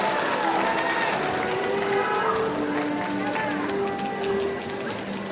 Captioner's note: audience applauding